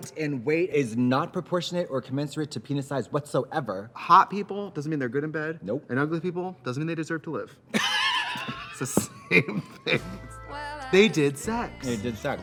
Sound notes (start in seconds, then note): 7.7 Katya laughs; 7.7 laughs